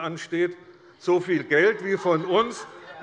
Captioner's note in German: Lachen und Zurufe von der SPD und der LINKEN